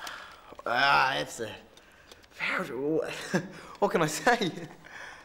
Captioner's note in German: lacht